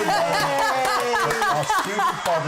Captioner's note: recording of cheering